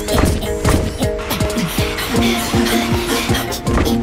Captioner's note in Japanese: 主任の荒い息; 一同の荒い息